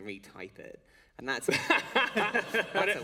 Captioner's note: laughter